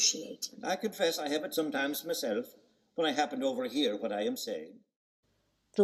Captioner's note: In Dan's voice